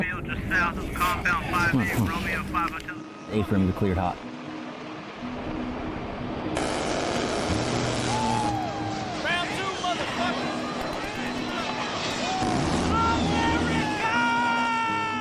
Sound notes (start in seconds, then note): 4.5 helicopter whirs; 6.6 helicopter guns rattle and burst; 8.1 troops cheer; 10.6 troops shout and cheer